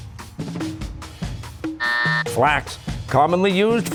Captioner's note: buzzer